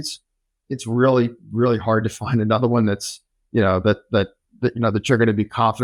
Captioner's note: laughs